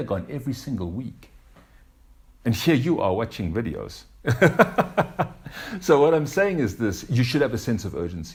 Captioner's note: laughs